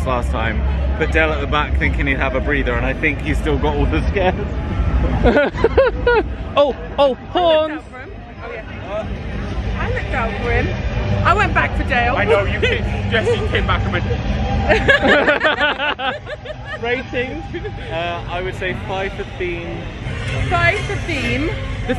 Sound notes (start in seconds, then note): 14.7 laughing